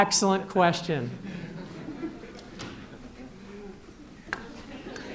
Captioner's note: laughter